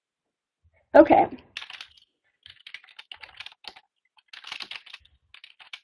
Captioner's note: typing